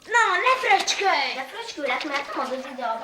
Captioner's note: laughing